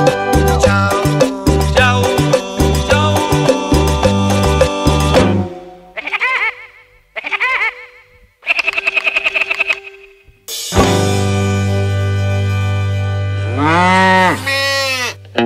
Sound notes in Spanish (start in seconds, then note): 5.9 Sonido pajaro loco